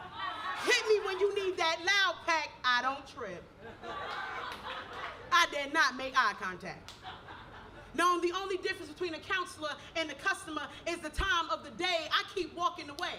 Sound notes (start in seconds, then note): 3.6 audience laughs